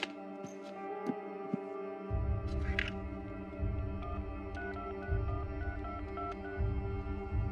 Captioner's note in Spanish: sonido al marcar